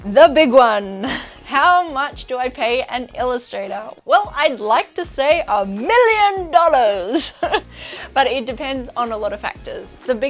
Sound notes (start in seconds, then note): 7.0 chuckles